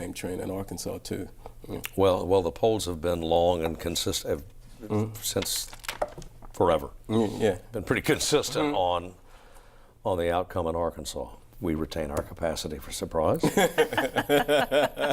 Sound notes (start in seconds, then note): 10.8 laughter